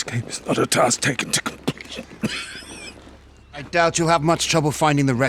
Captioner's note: coughs